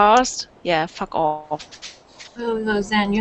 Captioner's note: mic starts making noises